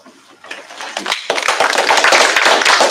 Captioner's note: applause